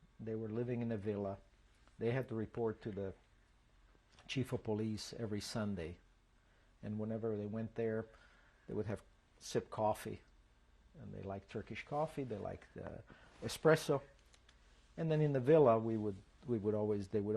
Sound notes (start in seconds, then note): none